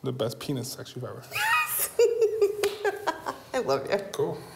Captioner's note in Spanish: risas